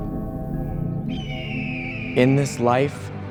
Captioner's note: bird caws